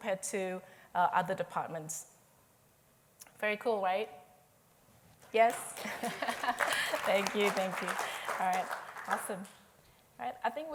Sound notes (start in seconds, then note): 5.4 applause